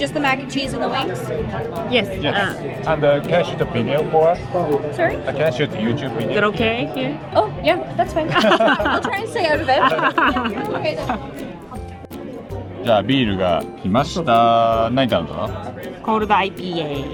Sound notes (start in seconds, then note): 8.2 laughs